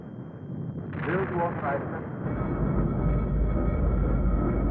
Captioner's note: radio presenter fades out